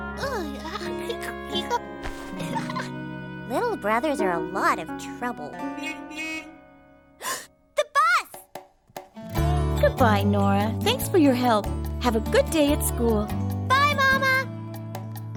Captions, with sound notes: (giggling) LITTLE BROTHERS ARE A LOT OF TROUBLE. (horn honking) OH, THE BUS! GOOD BYE, NORA. THANKS FOR YOUR HELP. HAVE A GOOD DAY AT SCHOOL. BYE, MAMA.